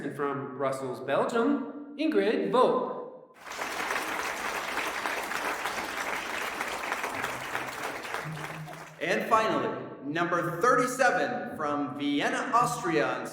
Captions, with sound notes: and from Brussels, Belgium, Ingrid Vough. (audience clapping) (playful music) - And finally number 37 from Vienna, Austria